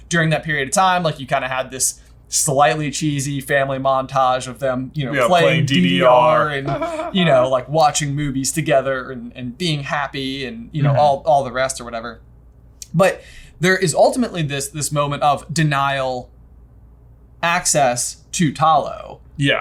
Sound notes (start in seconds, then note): 5.2 laughs